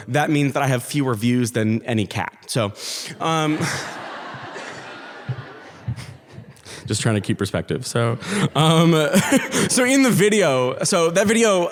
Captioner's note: audience laughs